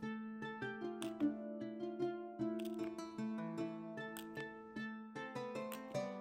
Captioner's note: paper rustling; bright music